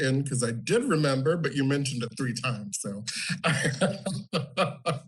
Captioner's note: laughs